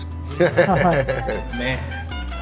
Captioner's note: laughter